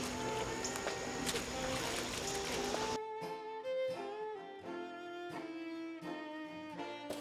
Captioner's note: insects hum; water splashes